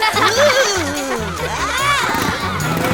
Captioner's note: motorcycle roars